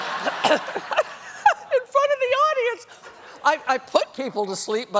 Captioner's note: laughter